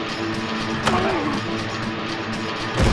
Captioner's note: grunts